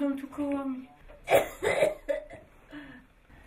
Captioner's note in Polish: kaszel